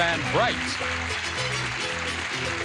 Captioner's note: applause